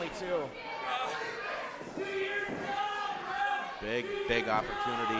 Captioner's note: groaning